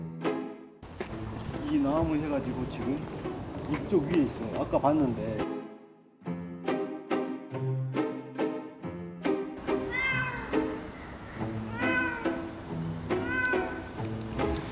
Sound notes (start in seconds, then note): 9.7 meow Meow Meow